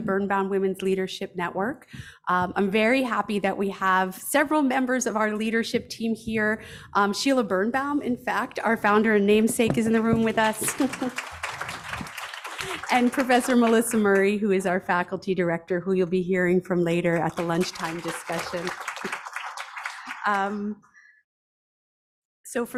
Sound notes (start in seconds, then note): 9.9 audience applauds; 19.0 audience applauds